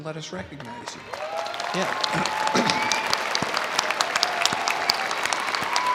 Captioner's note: audience applauding